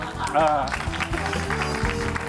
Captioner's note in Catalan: aplaudiments